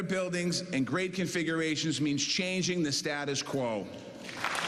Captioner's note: cheers and applause